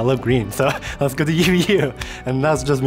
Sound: chuckles

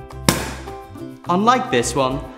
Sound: pop!

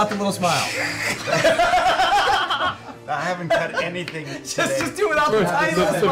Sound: laughter

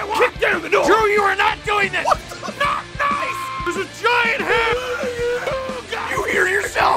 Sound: Harry potter screaming; screaming

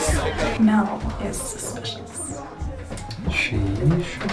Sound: Becca murmuring

